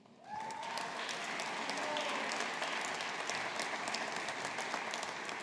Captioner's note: audience applauding